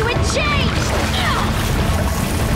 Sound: Katara grunts

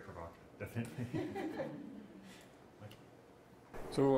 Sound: laughing

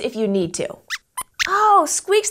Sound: squeaks squeaks

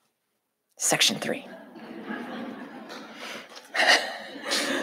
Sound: audience laughing

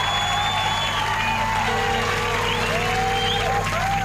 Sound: cheering intensifies

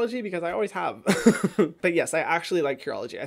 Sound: laughs

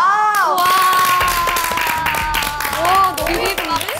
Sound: clapping in unison

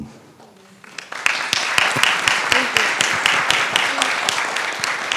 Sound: audience applauding

